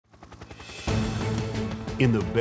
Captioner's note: helicopter blades whirring; dramatic music